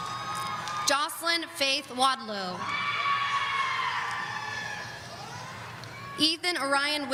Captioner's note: audience cheering